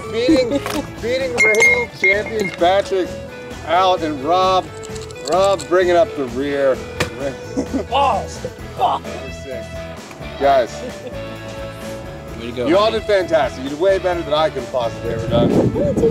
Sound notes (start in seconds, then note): 7.2 grunts